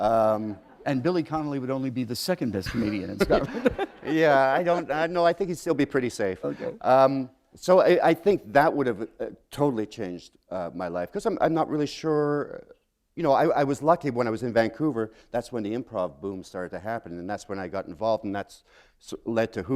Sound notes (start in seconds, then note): 3.2 chuckle